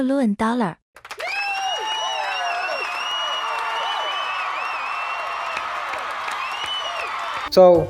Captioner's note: audience cheers